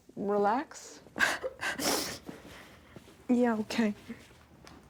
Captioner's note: sobs